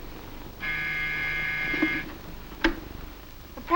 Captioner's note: phone buzzes